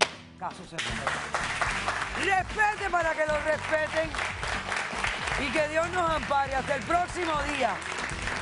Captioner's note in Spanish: Aplausos